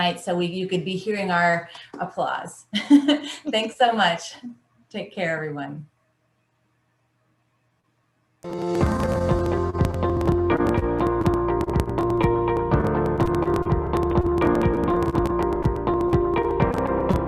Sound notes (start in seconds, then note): 2.8 laughing; 8.4 upbeat music